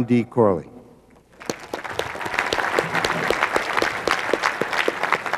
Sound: clapping

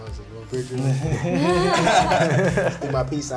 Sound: others laugh

